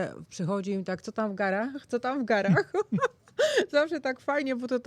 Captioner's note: śmiech